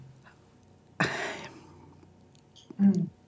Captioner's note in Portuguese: suspira